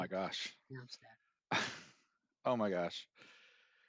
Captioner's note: laughter